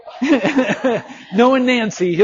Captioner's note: instructor laughing